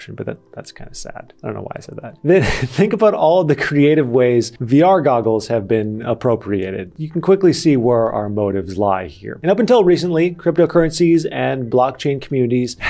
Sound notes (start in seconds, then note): 2.3 laughs